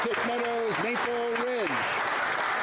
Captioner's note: speaking French